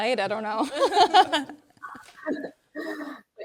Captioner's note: people laughing